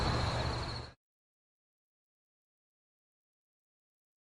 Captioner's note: long intentional silence